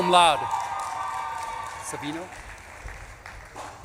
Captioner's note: audience claps and cheers